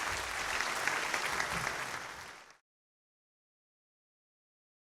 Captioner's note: applause